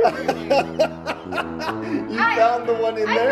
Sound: laughing

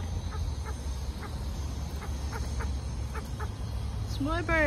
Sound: birds continue to vocalise at each other

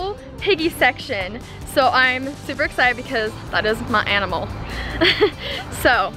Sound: laughs

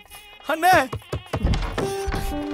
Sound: knock on door

